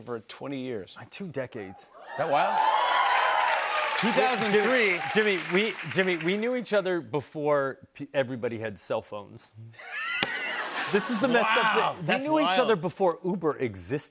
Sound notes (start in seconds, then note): 9.8 laughter